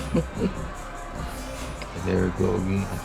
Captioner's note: June chuckles